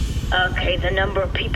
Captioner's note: transition sound